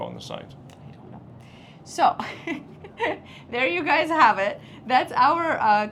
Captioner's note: laughs